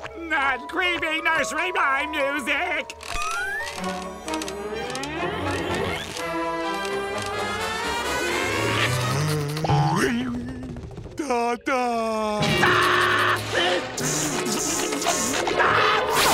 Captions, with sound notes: Not creepy nursery rhyme music! [creaking] Dada! [screaming]